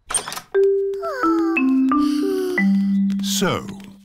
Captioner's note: peppa and george sigh